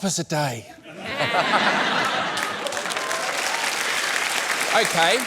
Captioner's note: laughter, applause